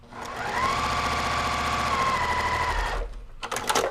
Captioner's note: machine whirring